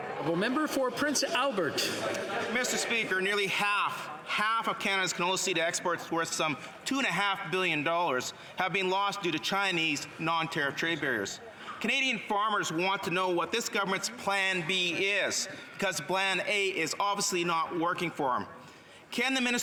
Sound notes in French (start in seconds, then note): 4.8 voix de l'interprète